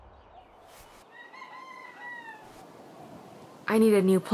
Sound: rooster Crowing

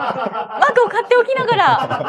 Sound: laughs

